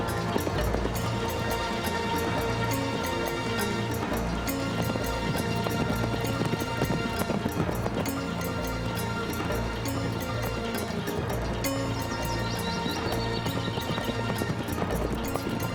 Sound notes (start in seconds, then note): 3.5 horses galloping